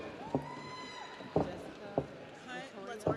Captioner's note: audience cheers